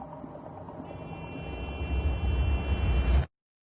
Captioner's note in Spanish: Claxon